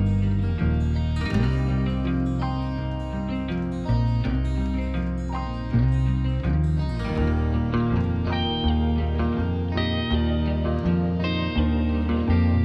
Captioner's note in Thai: ปรบมือ